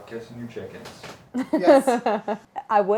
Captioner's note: laughing